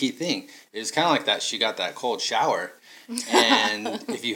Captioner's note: laughing